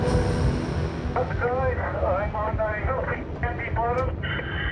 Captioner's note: speaking over radio